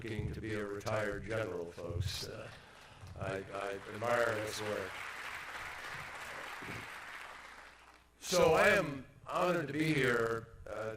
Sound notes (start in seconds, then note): 7.0 applause